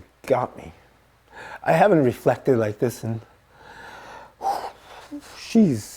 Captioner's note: exhales